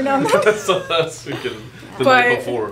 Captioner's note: laughing